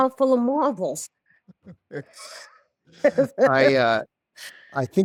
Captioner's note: both laugh